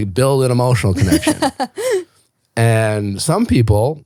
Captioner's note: laughing